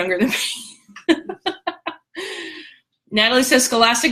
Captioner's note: laughter